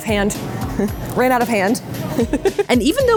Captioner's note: chuckling